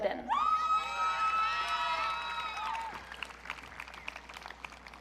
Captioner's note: audience cheering